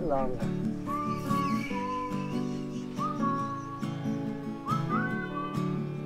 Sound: laughing

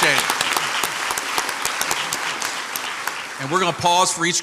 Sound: crowd applauds

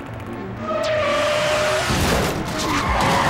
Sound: tires screeching

